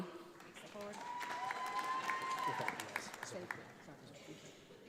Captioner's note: audience applauds